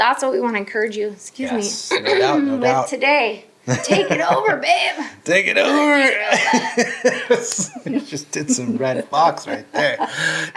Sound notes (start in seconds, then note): 5.6 laughing